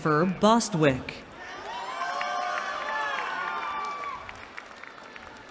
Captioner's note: cheering